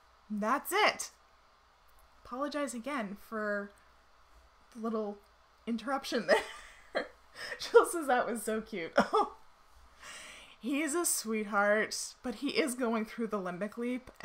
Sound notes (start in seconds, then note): 6.3 chuckles softly